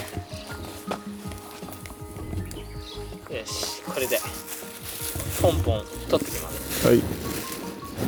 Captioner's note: laughs